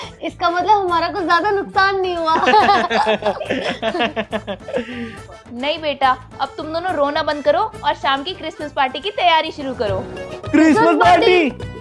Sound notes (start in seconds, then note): 2.3 laughing